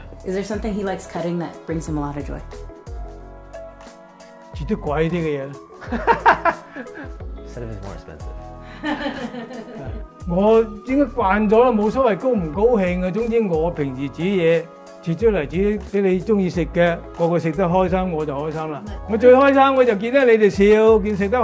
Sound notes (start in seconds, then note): 5.8 laughs; 8.7 laughs